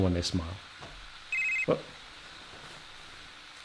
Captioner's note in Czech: zvoní mobil